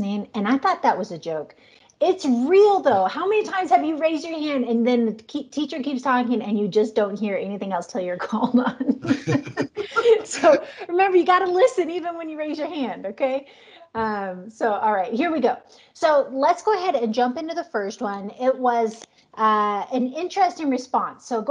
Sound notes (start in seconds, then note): 8.6 laughs